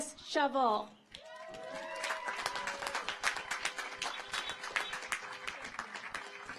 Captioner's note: car horns honking; audience applauds